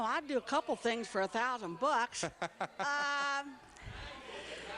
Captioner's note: laughs